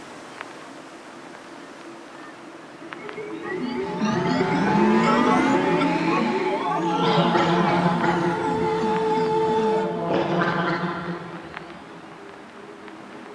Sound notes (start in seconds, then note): 2.9 robotic crying